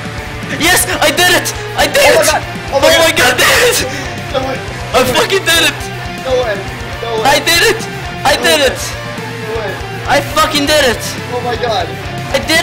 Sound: screaming of joy

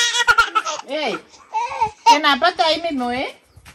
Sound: baby is crying for his mother

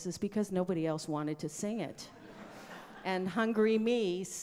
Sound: audience laughs

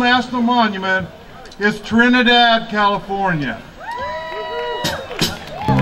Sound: cheering

